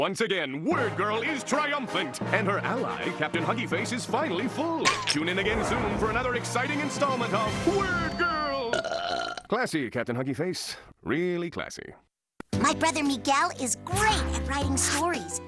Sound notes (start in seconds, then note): 6.9 huggy face belches